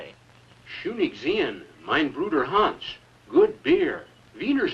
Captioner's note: Hans speaking German